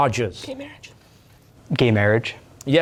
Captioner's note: whispering